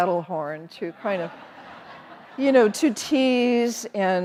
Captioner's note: audience laughing